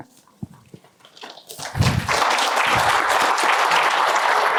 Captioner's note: applause